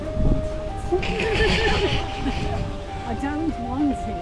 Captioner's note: laughter